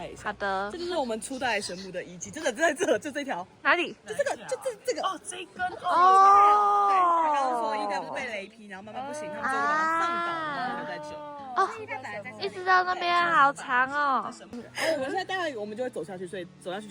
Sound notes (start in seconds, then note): 5.7 A chorus of awe and admiration